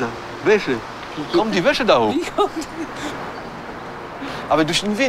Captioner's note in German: lacht